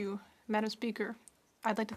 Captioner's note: speaking French